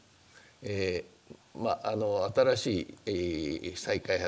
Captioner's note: speaking japanese